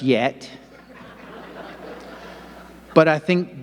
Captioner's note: audience laughing